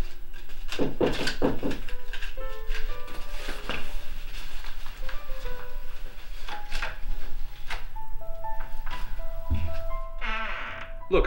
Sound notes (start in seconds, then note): 0.8 knocking at door; 8.9 door creaking